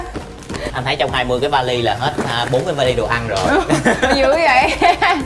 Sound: laughing

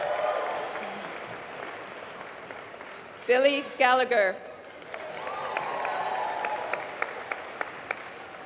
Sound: applause

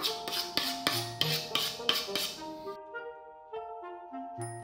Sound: metal scrapes

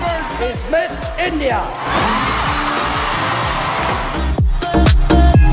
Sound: crowd cheering; rhythmic dance music

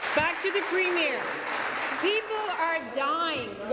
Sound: applause

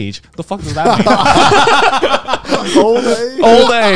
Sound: all laughing

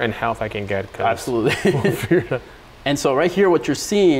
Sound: chuckles

